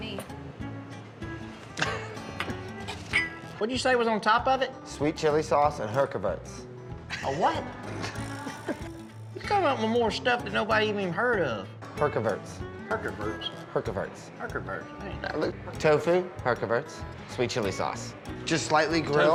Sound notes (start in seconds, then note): 7.1 laughs